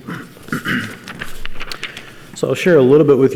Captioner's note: clears throat